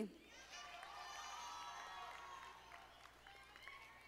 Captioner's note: audience applauding